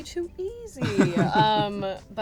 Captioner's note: laughs